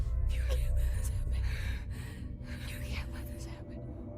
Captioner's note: whispering